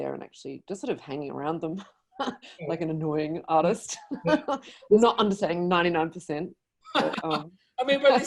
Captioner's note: laughs